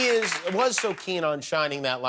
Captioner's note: cheers and applause